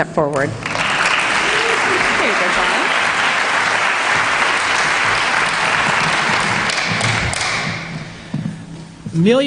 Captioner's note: applause